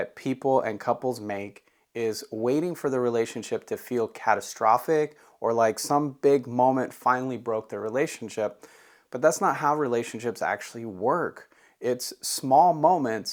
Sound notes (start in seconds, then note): 3.0 inhales Deeply